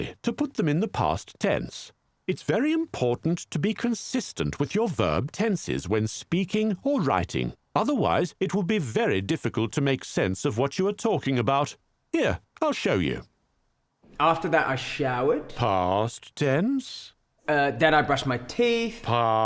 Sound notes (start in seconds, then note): 15.7 voiceover; 19.3 voiceover